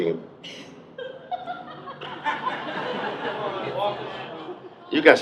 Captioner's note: audience members laugh